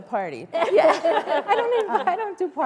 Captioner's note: laughter